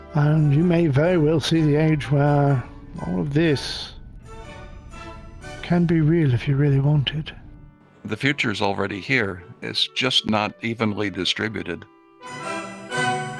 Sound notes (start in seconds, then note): none